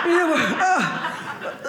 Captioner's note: audience laughing